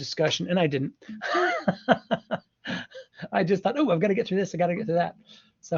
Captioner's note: laughs